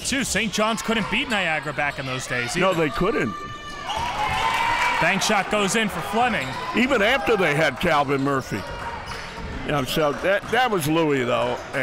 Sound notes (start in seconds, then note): 4.5 crowd cheering